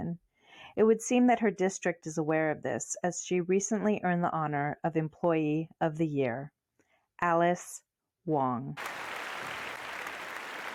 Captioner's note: applause